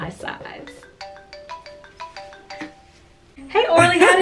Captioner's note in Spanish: el teléfono suena